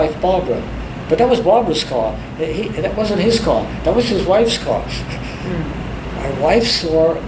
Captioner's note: laughs